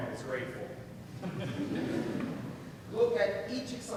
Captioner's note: laughing